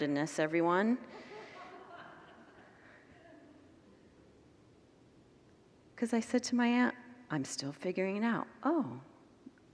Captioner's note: congregants laugh